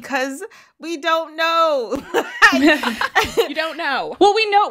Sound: laughter

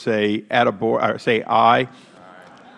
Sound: chorus of ayes

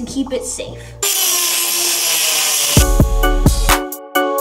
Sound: buzz saw running; mellow hip hop music

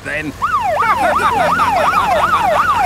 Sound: siren wailing; laughing

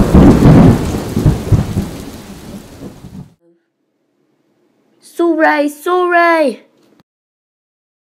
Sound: thunder and Lightning

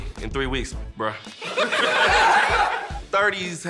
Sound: laughter

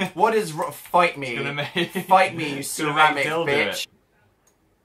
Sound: laughs

